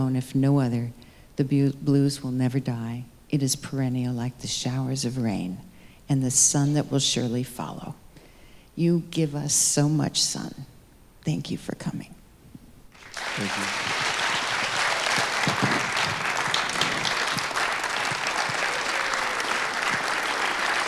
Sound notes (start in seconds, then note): 14.5 audience applauding